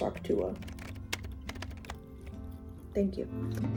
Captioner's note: typing